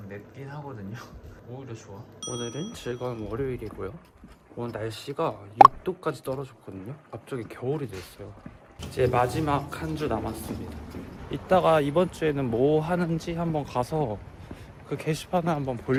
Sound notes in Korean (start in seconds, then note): none